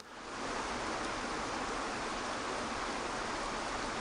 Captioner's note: water flowing